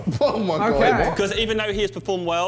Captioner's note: laughs